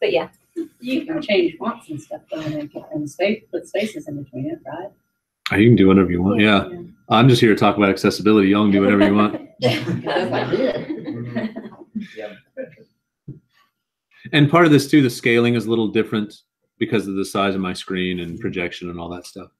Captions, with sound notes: >> You can change fonts and stuff though and then put spaces in between it, right? >> You can do whatever you want, yeah. I'm just here to talk about accessibility. Y'all do whatever you want. >> [LAUGH] >> And part of this, too, the scaling is little different because of the size of my screen and projection and all that stuff.